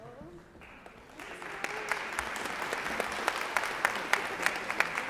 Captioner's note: applause